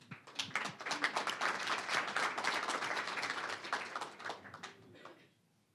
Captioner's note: applause